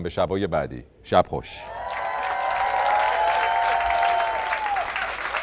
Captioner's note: applause